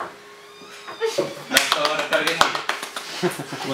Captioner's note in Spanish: risas y aplausos